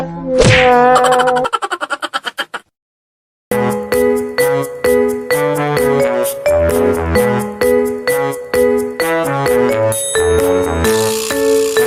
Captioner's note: laughs